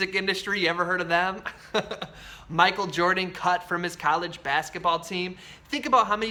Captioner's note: laughs